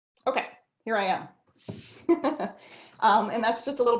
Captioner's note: chuckles